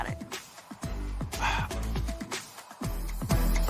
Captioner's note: sighs